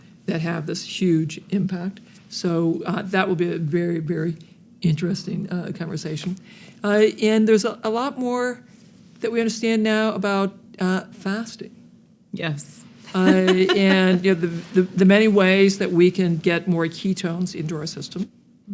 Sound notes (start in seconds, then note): 13.1 laughs